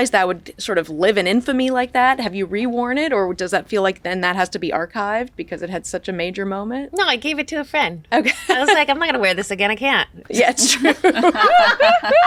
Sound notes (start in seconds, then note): 8.2 laughs; 10.7 all laugh